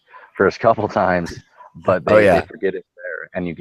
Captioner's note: voiceover